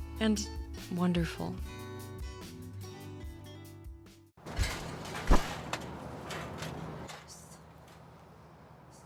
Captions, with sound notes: And wonderful. (slow guitar music continues) (objects clattering)